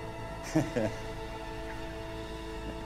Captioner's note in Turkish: Gülme sesi